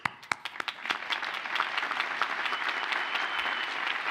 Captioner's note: audience applauds